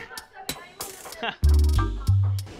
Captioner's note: chuckles